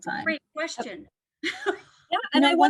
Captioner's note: laughter